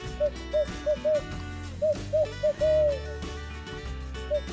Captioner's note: locator call hooting